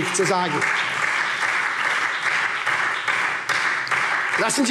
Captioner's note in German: Lebhafter Beifall SPD